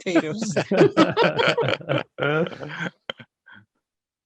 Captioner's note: all laugh